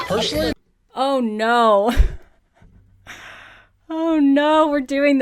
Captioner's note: laughs